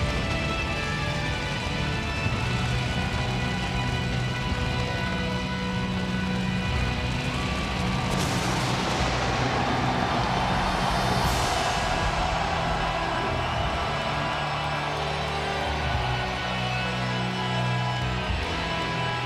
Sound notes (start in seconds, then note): 0.3 creepy music continues; 7.8 crowd cheering